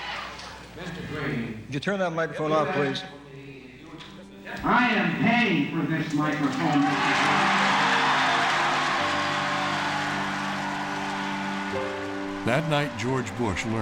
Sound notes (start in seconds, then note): 1.7 talking softly; 7.8 audience cheers and applauds